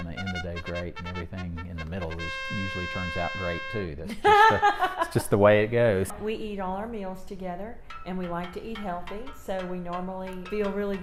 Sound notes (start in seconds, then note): 4.0 laughs